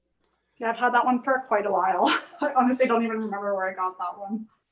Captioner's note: laughs